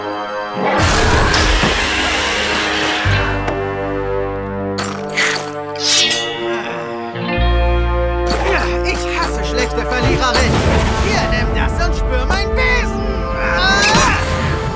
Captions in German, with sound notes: (Schreie) (Bedrohliche Musik) (Er knurrt entschlossen.) Ich hasse schlechte Verliererinnen! Hier, nimm das, und spür meinen Besen! (Er schreit.)